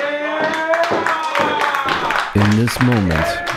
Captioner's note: applause